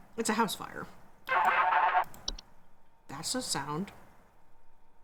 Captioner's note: phone rings strangely